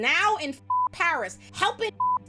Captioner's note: beep